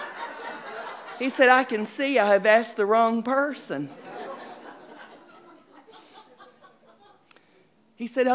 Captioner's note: audience laughing; audience laughing